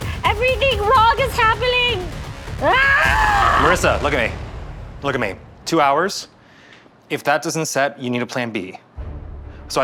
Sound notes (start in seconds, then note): 2.6 yells